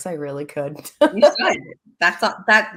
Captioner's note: laughs